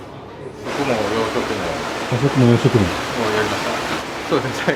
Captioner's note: eating and drinking